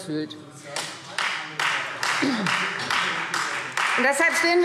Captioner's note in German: Beifall Freie Demokraten